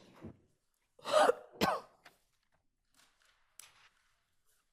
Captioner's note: attendee coughing